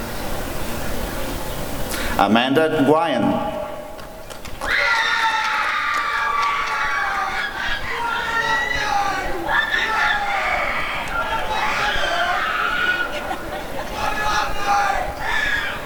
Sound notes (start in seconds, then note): 4.7 applause and cheering; 7.7 frantic screaming